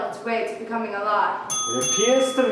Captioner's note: bell rings